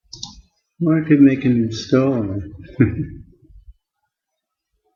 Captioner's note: laughs